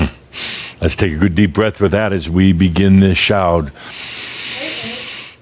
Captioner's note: Adamus takes a big deep breath